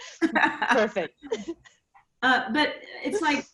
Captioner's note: laughs